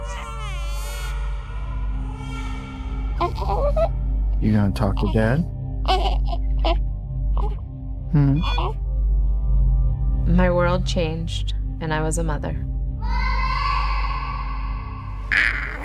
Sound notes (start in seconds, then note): 0.0 crying; 5.8 cooing